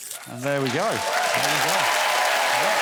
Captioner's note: blows whistle